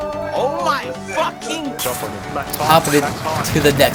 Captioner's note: teammates cheering